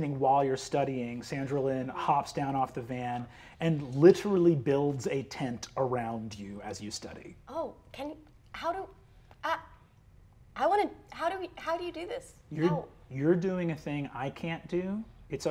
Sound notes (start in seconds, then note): none